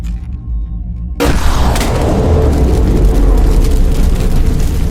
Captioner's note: gun firing